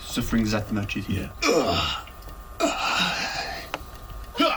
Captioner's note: groaning